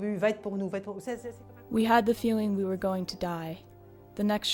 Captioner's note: speaks in a foreign language